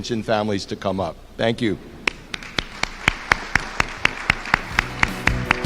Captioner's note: applause